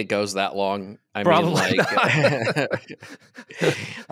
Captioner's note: both laugh